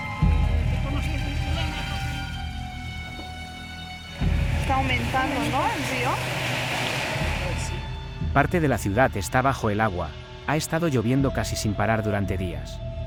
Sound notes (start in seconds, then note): 5.2 driver speaking in foreign language